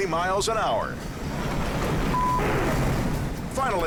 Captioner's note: wind howls